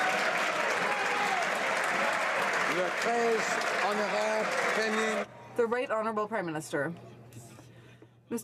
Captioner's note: some Applause